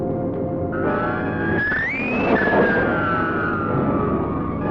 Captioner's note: squealing